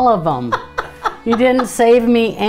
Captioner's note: Erin laughs